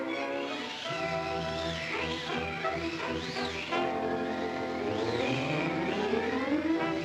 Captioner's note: dramatic music; wind whistling